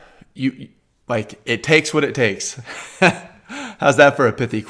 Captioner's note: laughs